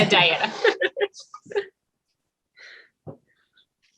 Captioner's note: laughs